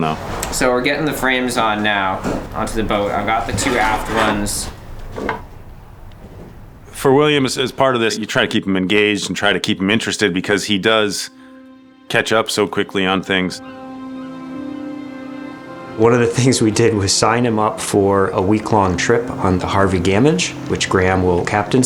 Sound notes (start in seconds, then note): 13.6 positive Music; 13.6 seagulls squawk